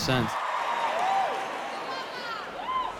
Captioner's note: cheering and applause